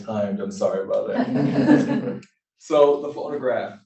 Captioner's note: laughter